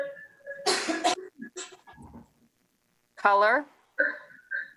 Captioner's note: person sneezes